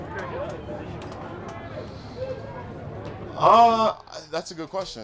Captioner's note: crowd chattering